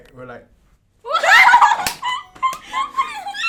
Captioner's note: laughter